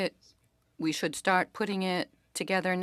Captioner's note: speaking French